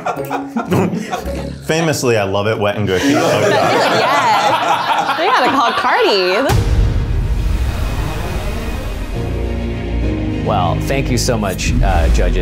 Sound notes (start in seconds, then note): 3.0 everybody laughs; 6.5 gentle suspenseful music